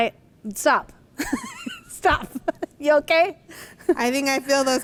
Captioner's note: laughs